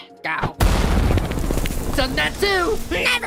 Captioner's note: digging sounds